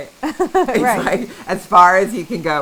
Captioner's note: laughing